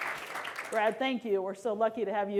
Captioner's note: applause